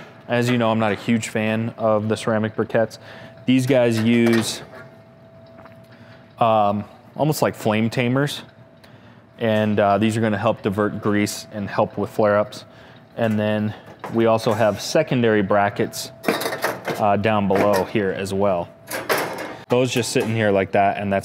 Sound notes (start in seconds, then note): 16.1 metals clanking